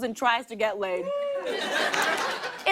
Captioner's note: laughter